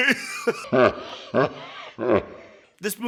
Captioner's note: trippy laughs; laughs